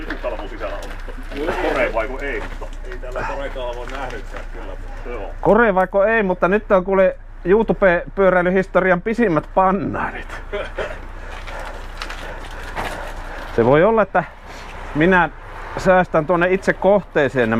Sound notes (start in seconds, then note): 10.5 laughter